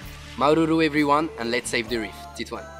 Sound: speaking foreign language

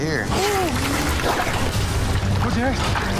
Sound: water splashing

